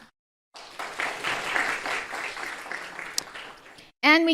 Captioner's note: group applauding